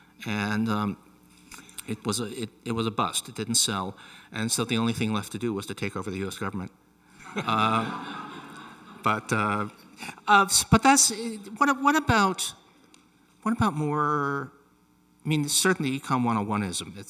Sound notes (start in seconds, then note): 7.2 audience laughing; 7.2 Angus laughing